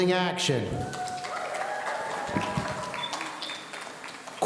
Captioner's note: audience cheering